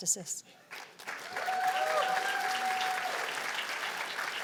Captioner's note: cheers and applause